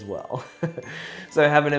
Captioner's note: laughs